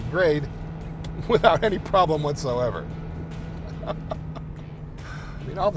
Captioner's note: laughing